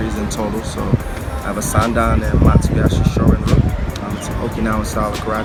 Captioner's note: wind blowing